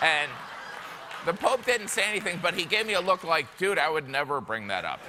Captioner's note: laughter